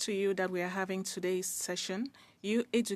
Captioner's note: speaking French